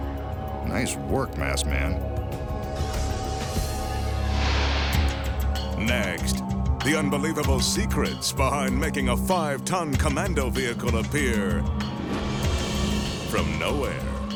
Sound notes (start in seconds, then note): 3.6 light beam swishing; 11.9 dramatic cymbal music